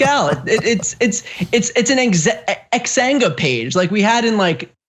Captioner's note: laugh